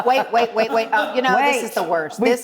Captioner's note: laughing